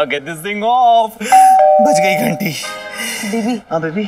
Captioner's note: Doorbell rings